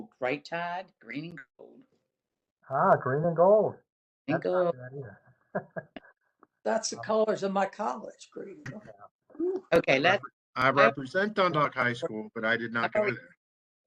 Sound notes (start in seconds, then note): 5.5 laughter